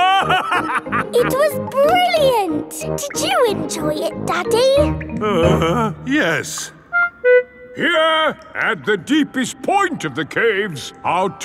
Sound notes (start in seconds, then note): 0.0 laughing; 5.2 groans